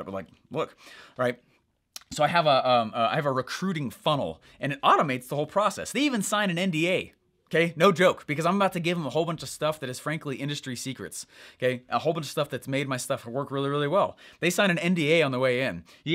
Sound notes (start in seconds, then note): none